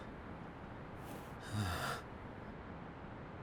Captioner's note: sigh